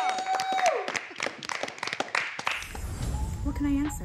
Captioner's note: applause